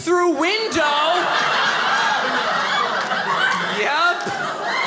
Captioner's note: audience laughing